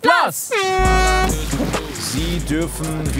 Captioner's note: Startsignal